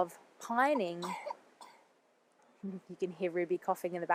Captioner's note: child coughing